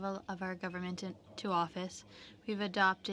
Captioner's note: speaking in French